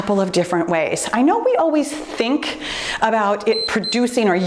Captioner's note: timer beeps